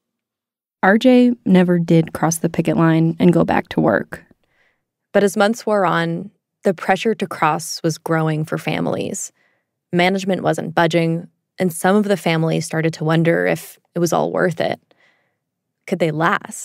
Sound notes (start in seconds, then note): none